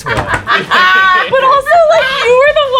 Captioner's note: laughing